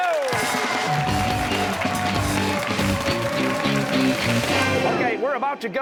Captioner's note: cheers and applause